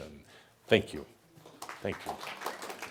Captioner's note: audience applause